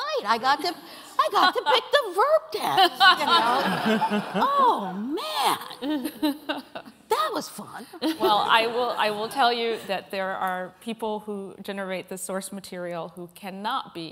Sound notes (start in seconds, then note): 2.8 laughter